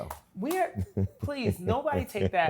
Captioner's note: laughs